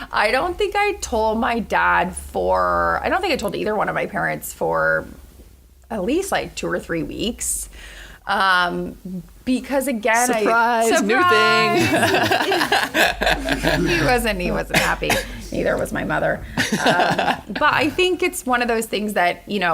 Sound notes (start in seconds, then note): 13.2 laughter